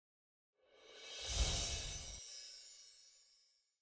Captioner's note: magical sound